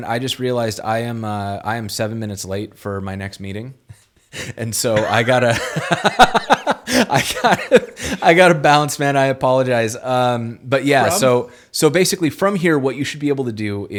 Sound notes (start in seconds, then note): 4.9 laughing; 4.9 laughs